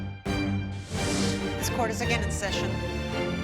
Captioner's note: tense rhythmic music returns; air whooshing